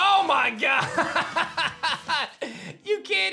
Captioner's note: laughs